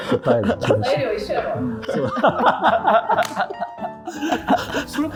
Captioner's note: laughing